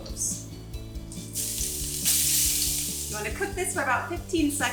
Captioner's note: cloves sizzle